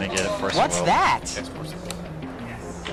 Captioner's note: crowd groans